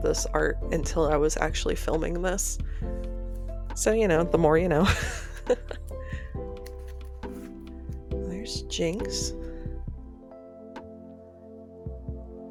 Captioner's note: laughter